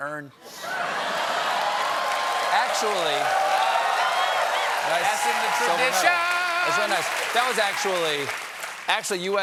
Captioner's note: applause; laughter